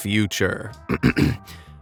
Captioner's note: cough